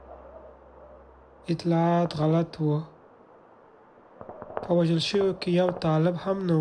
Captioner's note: speaking foreign language